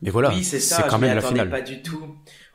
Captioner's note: none